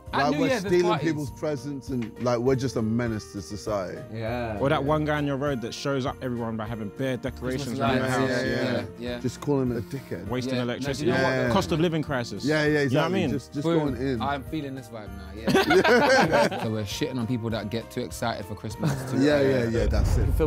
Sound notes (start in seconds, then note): 15.4 Sidemen laughing